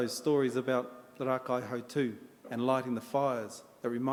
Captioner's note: in Maori